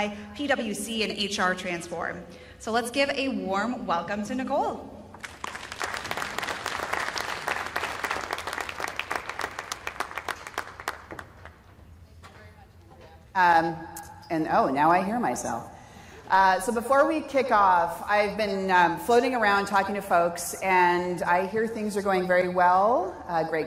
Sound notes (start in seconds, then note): 5.2 applause